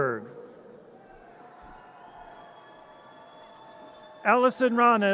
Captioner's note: audience cheers